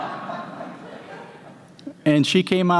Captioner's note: laughter